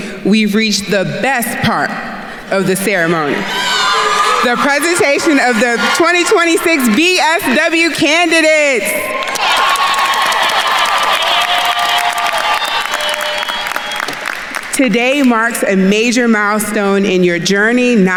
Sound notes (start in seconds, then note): 3.6 attendees cheering; 9.0 attendees cheering and applauding